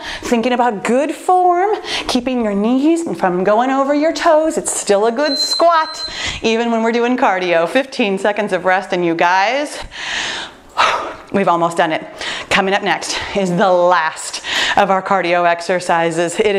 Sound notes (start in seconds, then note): 5.2 timer beeping; 10.7 sighs